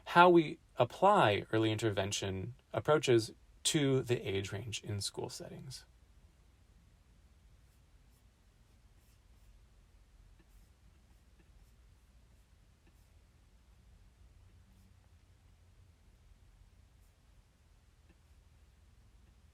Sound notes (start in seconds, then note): 5.9 silence-On overhead